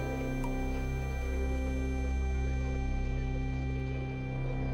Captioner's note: water dripping